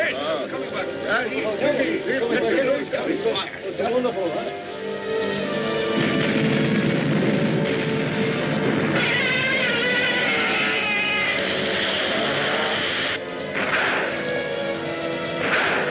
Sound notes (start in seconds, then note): 0.0 crowd chattering; 5.9 volcano booms; 8.8 Gammera screeching